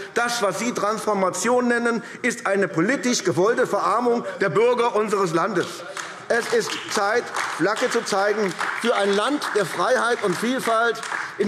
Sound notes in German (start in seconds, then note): 5.5 Beifall AfD